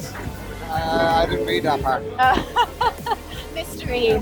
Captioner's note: laughs